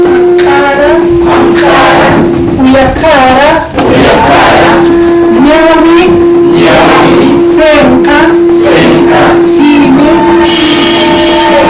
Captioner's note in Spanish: speaking in Quechua